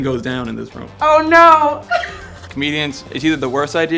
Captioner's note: laughs